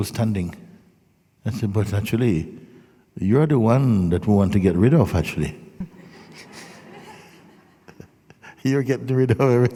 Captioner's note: laughter